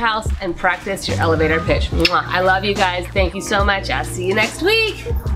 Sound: kiss

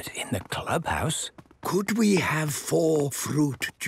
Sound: speaking quietly

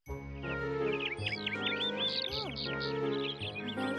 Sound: bird chirping

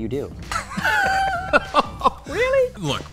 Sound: laughter

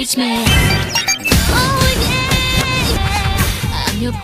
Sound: Kimmunicator ringtone

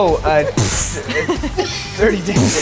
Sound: group laughing

